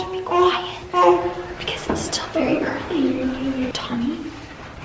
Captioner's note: baby babbling